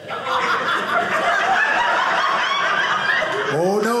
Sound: audience laughing

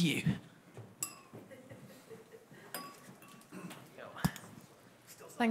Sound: audience laughs

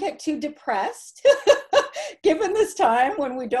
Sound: laughter

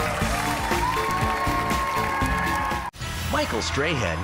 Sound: cheers and applause

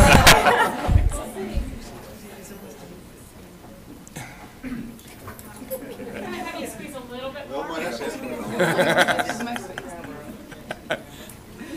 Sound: laughter

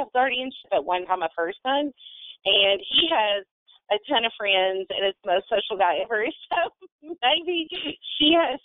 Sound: laughs

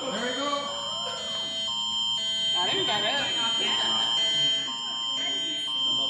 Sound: alarm sounding on phones

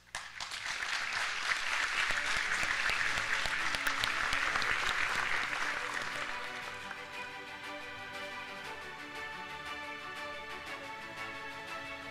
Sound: applause

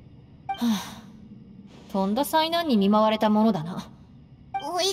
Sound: sigh

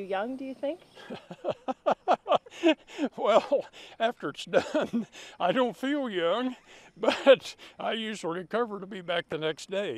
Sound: laughing

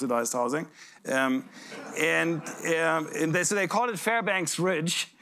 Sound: laughter

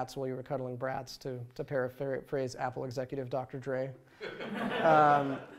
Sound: laughter

